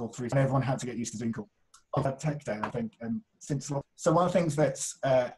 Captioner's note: audio glitches; audio glitches